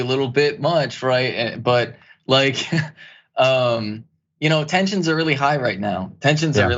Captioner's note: laugh